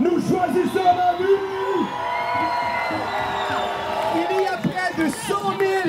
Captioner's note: shouts and applause